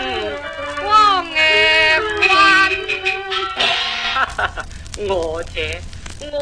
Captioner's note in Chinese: 小生狂笑介白